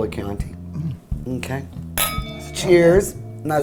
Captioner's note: wine glasses clink